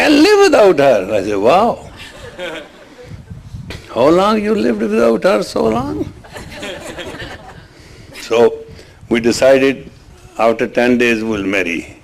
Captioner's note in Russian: смех